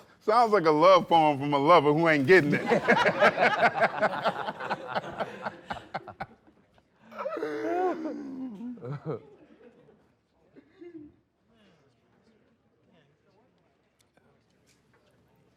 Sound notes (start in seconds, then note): 2.4 laughter